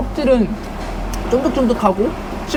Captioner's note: smacking lips